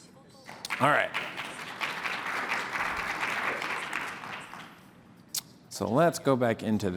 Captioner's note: applause